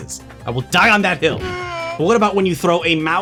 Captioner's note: death scream